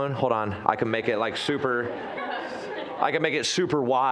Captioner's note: audience chuckling